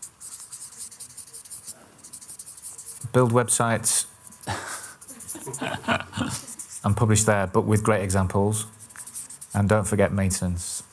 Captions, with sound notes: build websites [laughter] and publish there but with great examples and don't forget maintenance